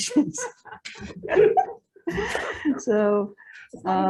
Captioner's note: panel chuckling